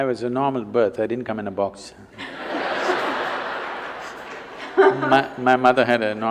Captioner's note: laughter